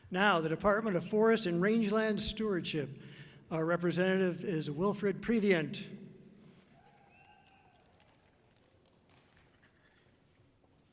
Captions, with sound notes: Now the Department of Forest and Rangeland Stewardship. Our representative is Wilfred Previant. (audience clapping softly)